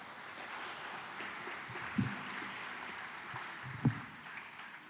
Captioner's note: applause